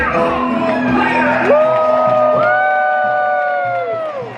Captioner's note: all cheering